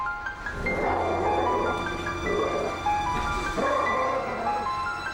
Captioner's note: dogs growling